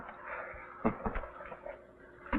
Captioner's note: bill chuckles